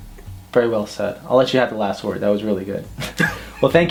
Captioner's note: both laugh